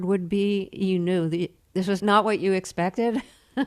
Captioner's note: laughter